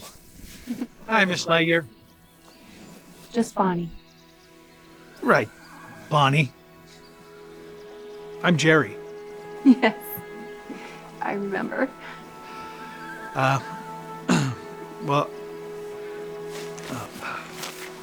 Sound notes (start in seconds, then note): 4.0 soft music; 10.1 giggles; 16.1 stammering